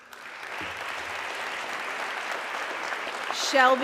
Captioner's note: audience clapping